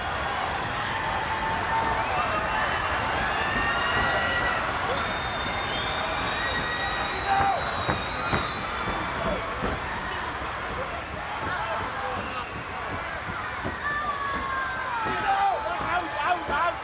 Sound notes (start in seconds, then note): 4.5 crowd cheering